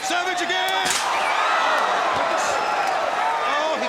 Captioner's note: audience cheers